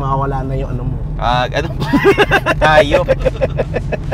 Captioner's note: both laughing